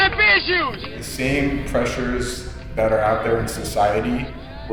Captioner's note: voiceover